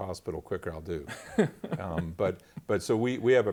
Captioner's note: laughter